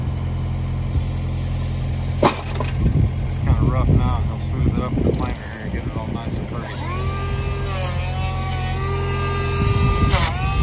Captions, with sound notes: (wood clattering) This is kind of rough now, but he'll smooth it up with the planer here, getting it all nice and pretty. (planer whirring)